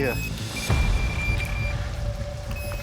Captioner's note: rapid beeping